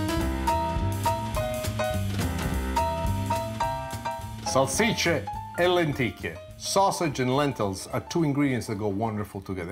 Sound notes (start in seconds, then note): 5.0 speaking in foreign language